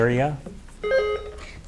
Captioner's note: buzzer beeps